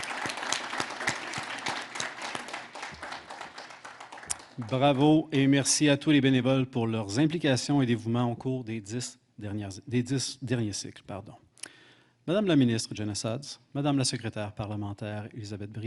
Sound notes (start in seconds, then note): 0.0 applause; 6.7 speaking French